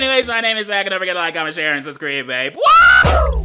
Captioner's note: screams